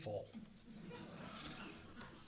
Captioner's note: audience laughing